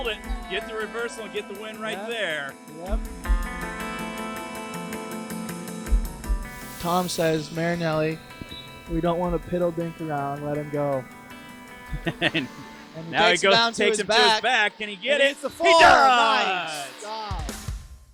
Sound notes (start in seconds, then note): 11.6 laughing